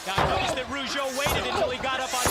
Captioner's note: crowd chatter